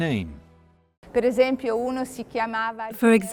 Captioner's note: speaking in foreign language